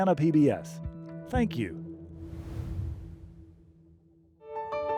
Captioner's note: logo swooshes; bright music